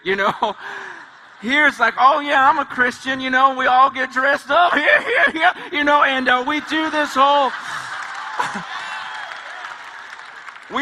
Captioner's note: laughs